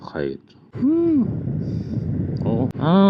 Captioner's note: heavy exhaust